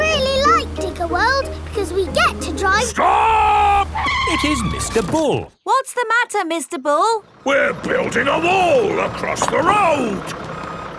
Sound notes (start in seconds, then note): 2.7 tires screeching